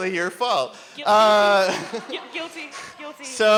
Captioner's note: voiceover